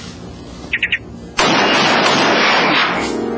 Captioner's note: gunshots